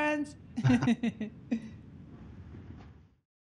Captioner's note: laughing